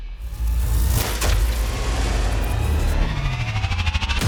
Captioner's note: engine revving